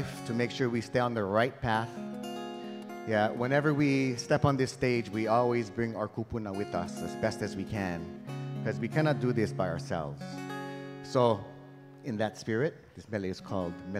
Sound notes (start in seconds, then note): none